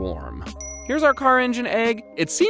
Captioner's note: dings